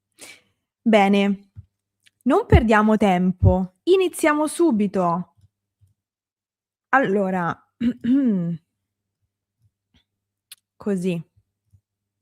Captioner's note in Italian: schiarire la voce